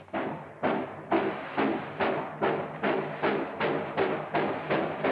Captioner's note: train rattling